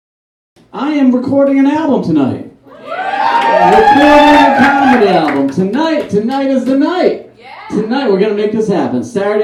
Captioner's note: audience cheers